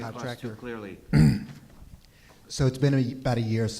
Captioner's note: clears throat